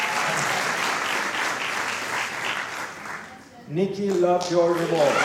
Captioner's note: applause